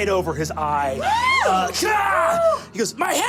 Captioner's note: screaming